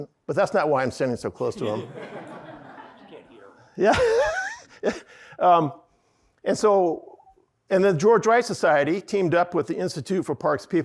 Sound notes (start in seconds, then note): 1.6 audience laughing